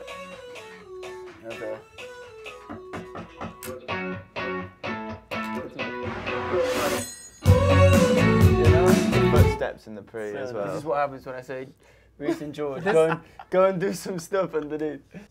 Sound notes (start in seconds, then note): 2.4 guitar riff; 2.8 knocking